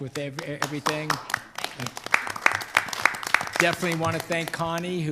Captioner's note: board members clapping